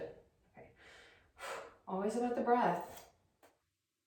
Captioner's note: deep breath